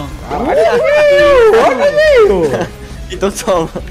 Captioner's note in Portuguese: risos